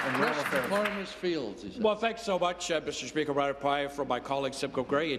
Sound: applause

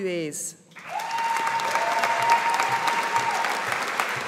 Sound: audience applauding

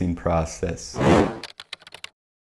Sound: typing

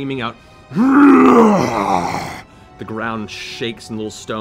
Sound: growls

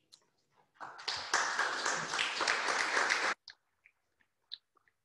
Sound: applause

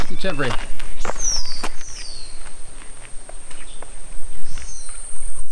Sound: birds tweeting

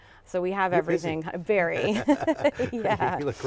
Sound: laughs

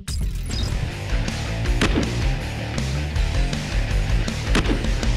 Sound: heavy rock music; gunshots

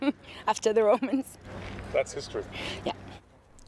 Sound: laughter

